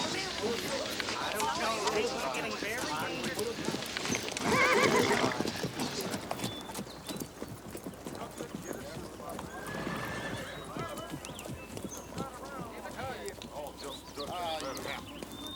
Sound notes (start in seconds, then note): 0.0 townsfolk chatter; 3.6 hooves clop; 4.3 horse neighs; 9.4 horse neighs; 12.8 townsfolk chatter